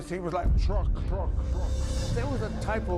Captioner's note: echoing